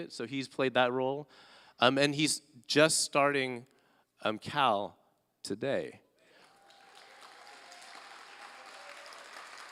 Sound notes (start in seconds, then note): 6.3 applause